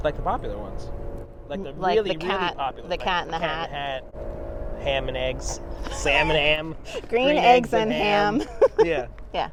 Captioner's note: laughs